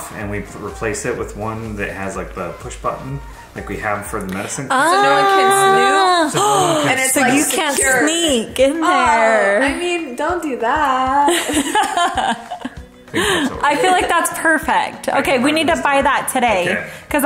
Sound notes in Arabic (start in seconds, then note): 6.3 تلهث; 11.3 يضحك الجميع